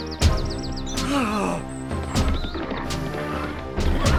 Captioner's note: 戏剧音乐; 耶胡喘气声